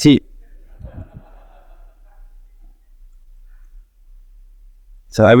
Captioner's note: people laughing